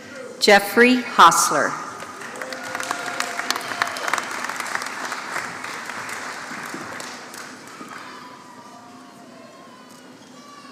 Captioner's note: applause